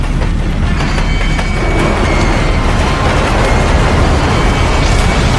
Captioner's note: flames whooshing; spacecraft creaking; explosion booms